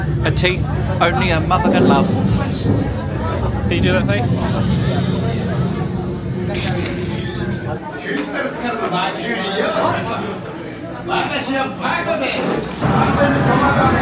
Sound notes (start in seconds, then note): 8.5 character speaking Japanese